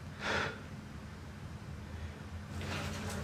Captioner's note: Billy sighs